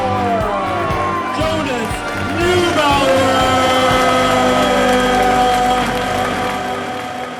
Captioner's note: sound echoes and fades